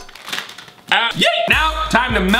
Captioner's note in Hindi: चिल्लाना